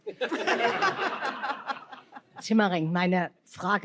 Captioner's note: laughter